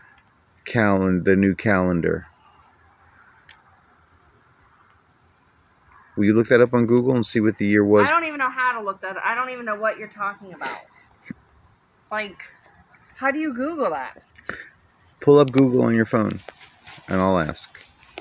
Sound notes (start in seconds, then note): 10.5 laughs